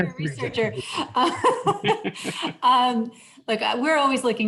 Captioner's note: laughs